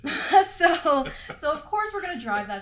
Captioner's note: both laugh